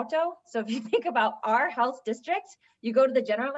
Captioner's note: laughter